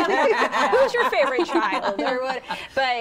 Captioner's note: group laughing